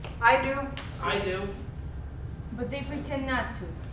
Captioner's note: snap